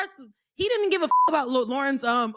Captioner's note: beep